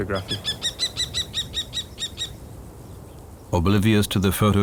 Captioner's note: kestrel calls